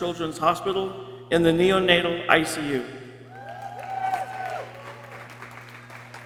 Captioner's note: people cheering